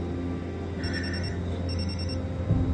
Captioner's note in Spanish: Suena el celular